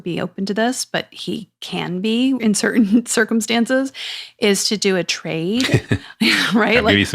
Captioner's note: laugh